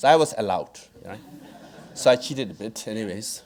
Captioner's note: audience laughing